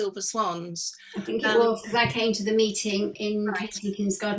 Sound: speaking faintly

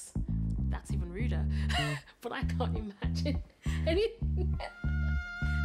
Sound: laughs

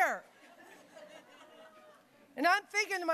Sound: audience laughing

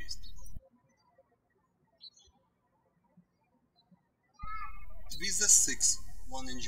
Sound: birds chirping

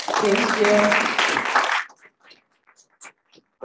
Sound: applause

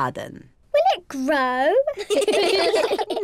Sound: all laugh

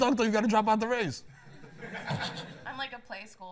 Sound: laughter

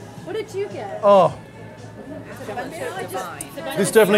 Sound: group chattering

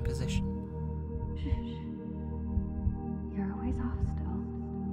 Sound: echoing

